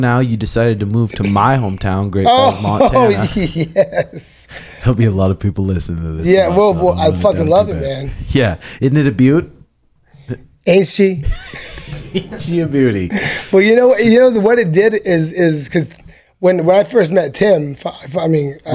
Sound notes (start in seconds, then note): 2.2 laughs